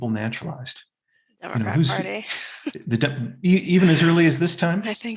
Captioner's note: chuckles